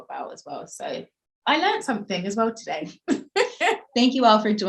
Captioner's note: laughing